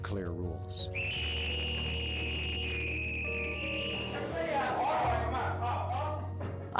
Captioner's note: whistle